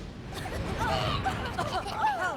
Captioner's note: all coughing